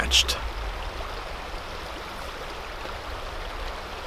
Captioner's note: water splattering